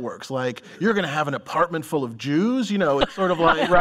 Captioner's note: laughter